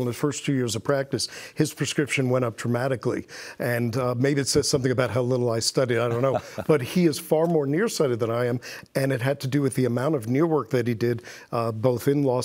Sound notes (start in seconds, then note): 5.9 laughs